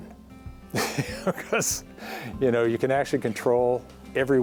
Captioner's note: laughs